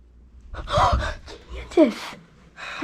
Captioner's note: Emelie gasps